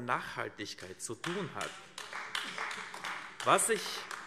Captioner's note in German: Beifall AfD